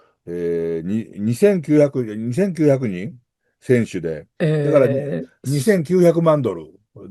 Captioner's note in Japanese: 鼻息